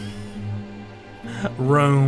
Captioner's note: laughs